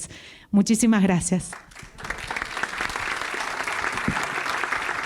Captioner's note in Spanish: Aplausos